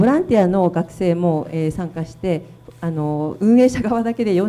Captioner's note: speaking foreign language